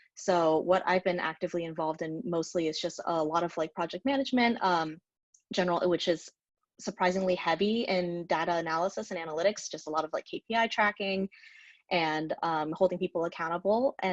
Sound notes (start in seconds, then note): none